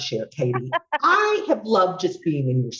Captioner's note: laughing